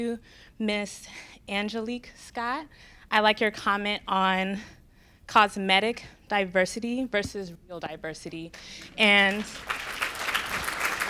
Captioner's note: applause